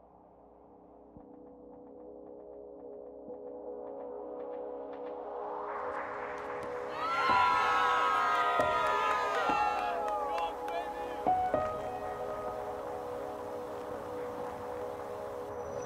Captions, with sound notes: (crowd cheers) - Let's go. - Go on, baby. (melancholy music)